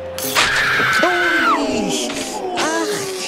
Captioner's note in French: hurlement; exclamations